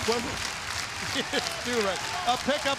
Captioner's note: laughs